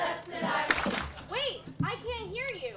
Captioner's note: rhythmic clapping; audience laughs